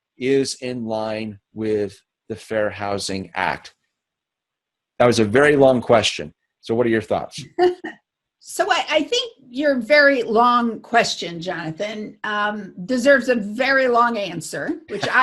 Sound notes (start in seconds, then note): 7.4 laughing; 14.9 laughing